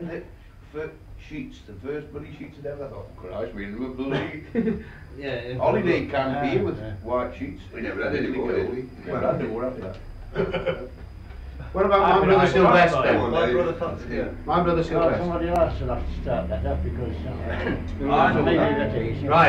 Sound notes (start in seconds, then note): 10.2 laughter